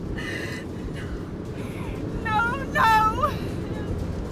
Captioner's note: sobs